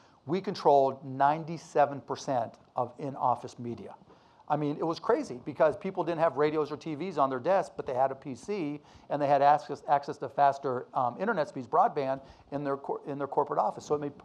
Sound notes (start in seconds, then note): none